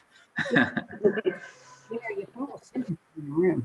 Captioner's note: laughing loudly